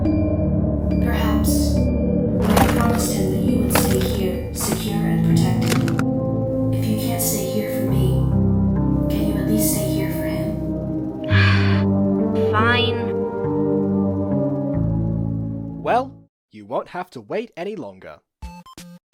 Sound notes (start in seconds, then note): 11.3 sigh